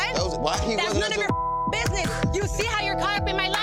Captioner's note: beep